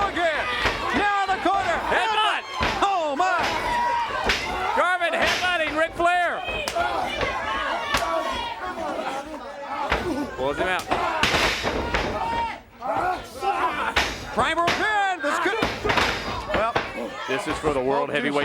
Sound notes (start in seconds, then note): 6.0 crowd chatter